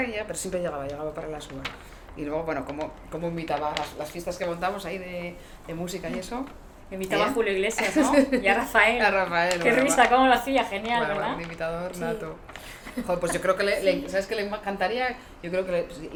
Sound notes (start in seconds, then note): 7.8 risas